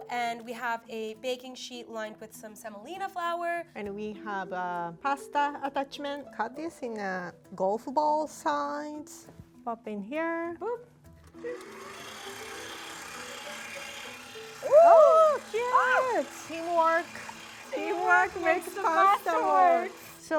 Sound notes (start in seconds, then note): 14.6 both cheering